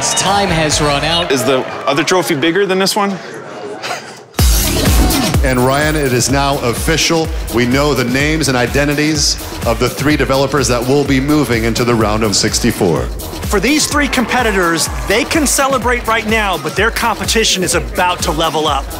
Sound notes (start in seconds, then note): 3.3 laughs; 4.4 upbeat rock music